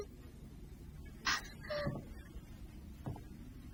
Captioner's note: marie whimpering